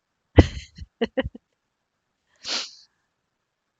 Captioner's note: laughs